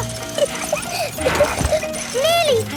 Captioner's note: peppa laughing